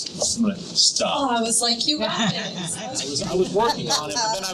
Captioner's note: laughing